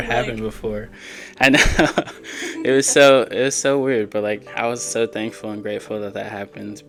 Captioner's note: laughter